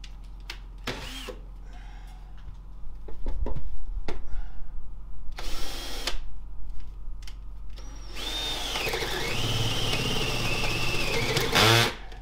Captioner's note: drill whirring